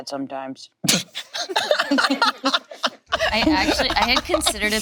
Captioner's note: laughing